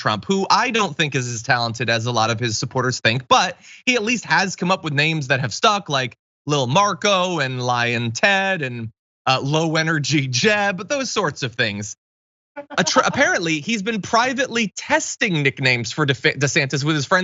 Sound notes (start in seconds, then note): 12.6 laugh